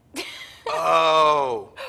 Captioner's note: laughing